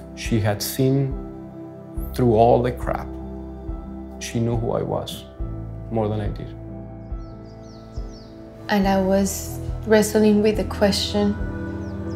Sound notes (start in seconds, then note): 7.4 birds chirping